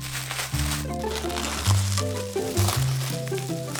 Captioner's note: ASMR Bubbles